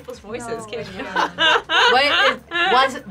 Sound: gentle mocking laughter

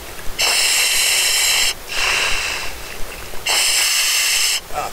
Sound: breathing loudly

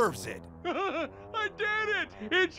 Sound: laughing

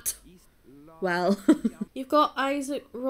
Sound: laughs

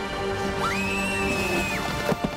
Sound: screaming

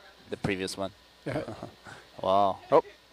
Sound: man 3 chuckling

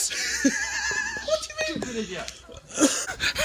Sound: laughs

